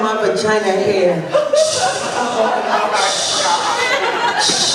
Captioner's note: whooshing sounds; laughter